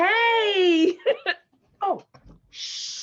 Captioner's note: Peaches laughs